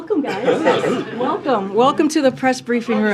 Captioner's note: laughter